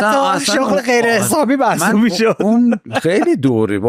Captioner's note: laughs